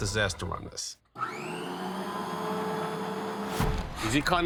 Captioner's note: saw whirring